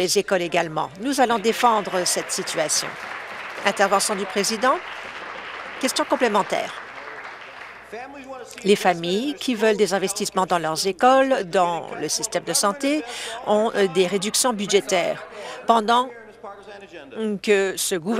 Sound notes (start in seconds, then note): 6.1 applause